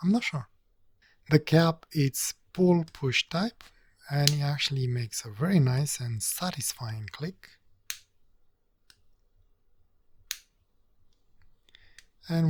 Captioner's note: clicking noises